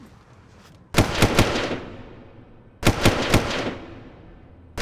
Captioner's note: gun firing